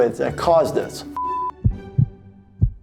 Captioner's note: beeping; heart beats